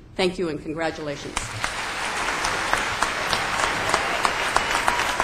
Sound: applause

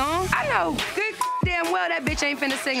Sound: beep

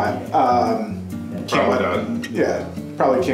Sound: voiceover

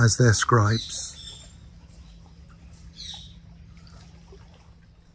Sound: birds singing

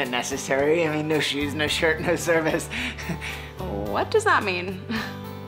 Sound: laughs

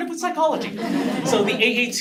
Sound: laugh

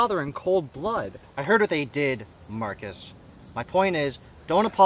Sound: condescending

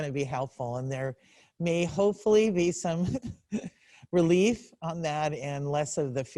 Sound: laughs

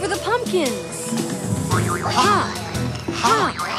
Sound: characters boinging

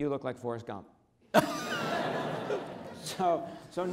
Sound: audience laughs

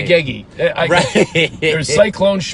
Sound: laughs

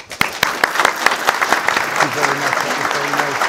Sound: audience applauding

